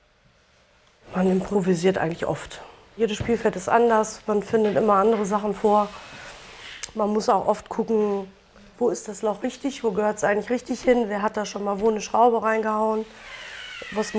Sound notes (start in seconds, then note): none